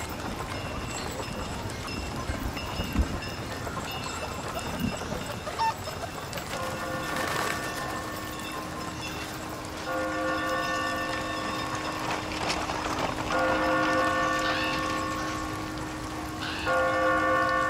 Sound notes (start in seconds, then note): 3.9 chickens clucking; 6.7 church bells ringing